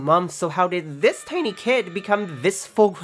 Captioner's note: serious sam bomber AAAAAAA in background